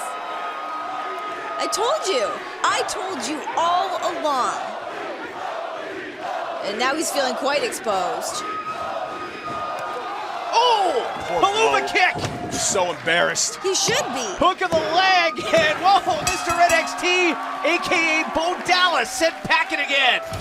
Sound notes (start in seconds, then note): 4.3 fans chanting